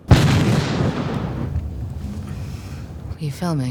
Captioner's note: explosion